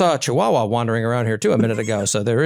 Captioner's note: laugh